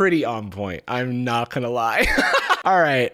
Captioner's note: laughs